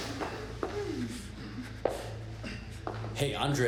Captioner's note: dramatic music; footsteps tapping